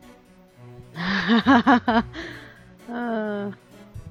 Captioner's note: laughs